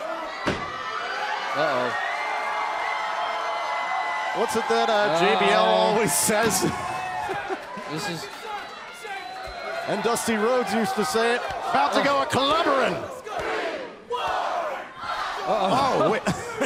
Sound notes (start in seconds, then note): 3.5 crowd cheering; 13.6 crowd chatter